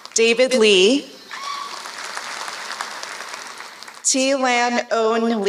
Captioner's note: applause; applause